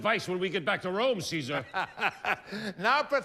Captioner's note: Caesar laughs